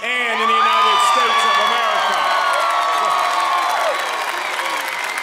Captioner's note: applause